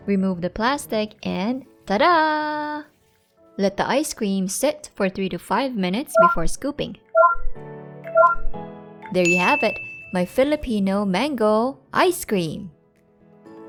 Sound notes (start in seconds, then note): 6.1 robot blips; 9.2 timer dings